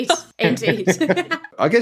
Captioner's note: laughing